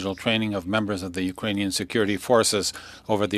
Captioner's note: speaking French